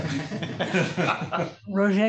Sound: laughter

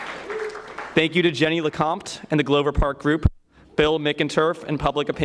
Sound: applause

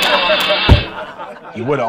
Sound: laughter

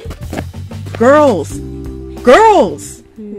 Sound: urgent tone

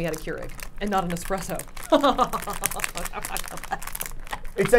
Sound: laughing

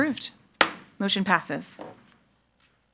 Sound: gavel thuds

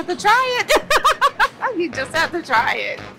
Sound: laughs

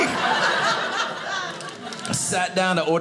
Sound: audience laughing

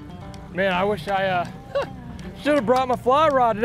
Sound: laughs

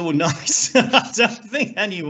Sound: laughs

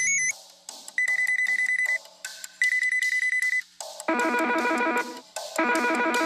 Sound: phone rings sharply; phone rings cheerfully; phone rings playfully

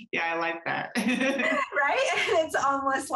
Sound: laughter

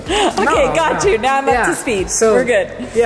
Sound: laughs

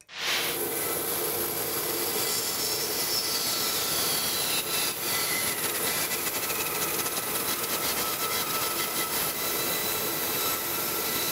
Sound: saw buzzing

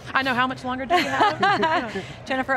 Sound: laughs

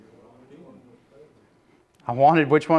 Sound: murmuring

